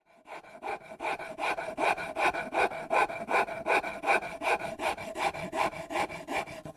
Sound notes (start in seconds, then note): 0.3 file scraping against wood